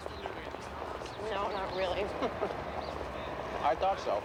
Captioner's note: chuckles